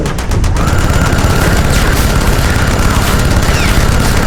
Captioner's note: gun fires rapidly